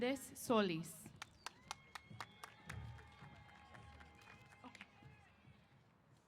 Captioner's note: applause & Cheers